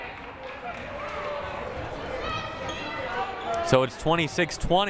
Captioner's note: crowd murmuring